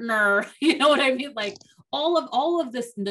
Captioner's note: chuckles